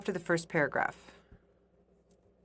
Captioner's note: speaking French